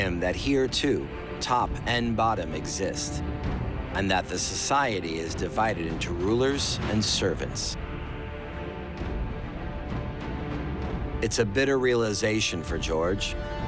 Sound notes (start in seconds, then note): none